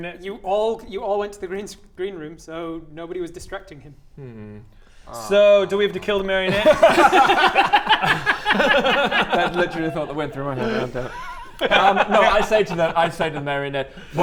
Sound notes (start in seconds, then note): 7.1 degenerate laughter